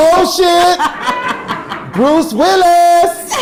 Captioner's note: audience laughing